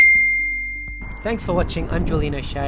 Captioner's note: bell dings